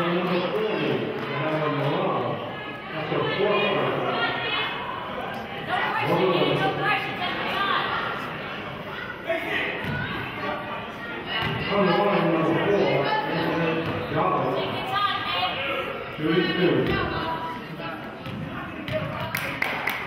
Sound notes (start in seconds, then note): 14.5 murmurs; 16.5 murmurs; 19.0 clapping and chanting